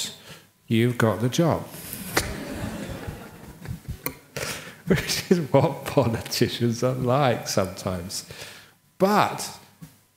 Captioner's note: laughter